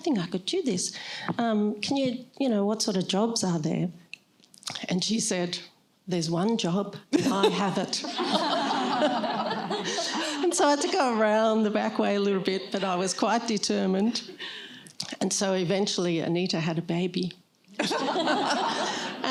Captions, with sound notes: I think I could do this. What sort of jobs are there? And she said, there's one job. I have it. [LAUGHTER] And so I had to go around the back way a little bit, but I was quite determined. And so, eventually, Anita had a baby. [LAUGHTER]